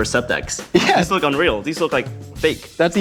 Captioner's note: laughing